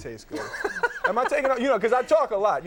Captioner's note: Conan laughing